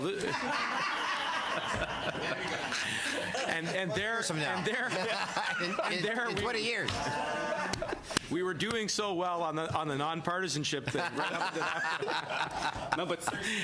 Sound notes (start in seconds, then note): 2.6 laughter